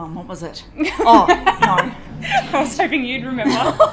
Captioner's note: laughing